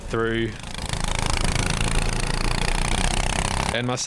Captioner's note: engine revving